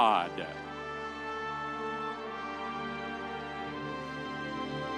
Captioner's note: audience cheering